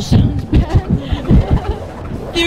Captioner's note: laughter